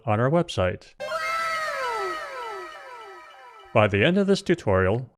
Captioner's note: anime "wow!" sound effect